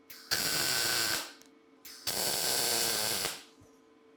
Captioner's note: sparks hissing